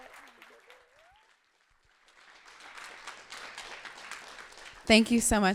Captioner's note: clapping